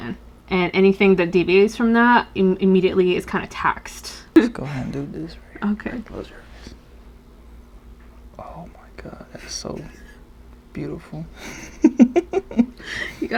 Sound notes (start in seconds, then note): 5.6 whispers; 8.8 whispers; 11.4 laughs